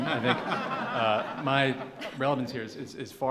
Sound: laughing

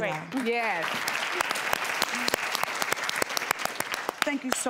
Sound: audience applauds

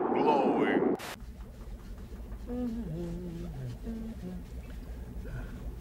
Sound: <i> Bill humming</i>

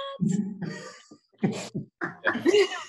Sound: laughing

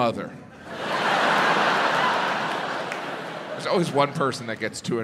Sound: audience laughs

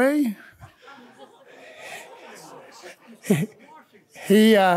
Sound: audience chattering

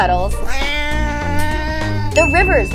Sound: meow

